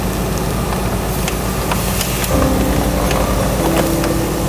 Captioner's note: vehicle creaking